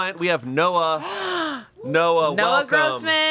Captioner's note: gasps